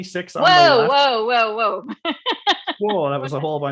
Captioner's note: laughs